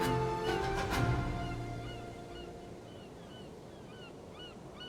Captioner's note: gulls squawking